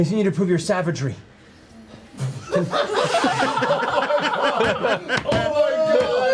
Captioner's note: laughter